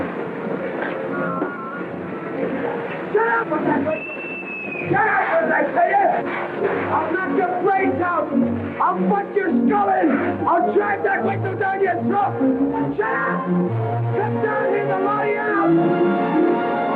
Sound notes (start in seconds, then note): 3.9 whistle